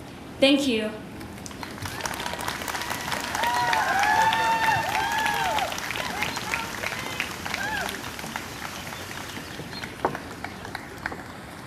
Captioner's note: applause